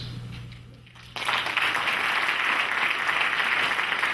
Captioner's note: clapping